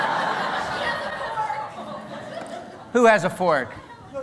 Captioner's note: laughter